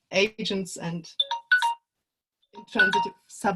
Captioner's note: ringer sound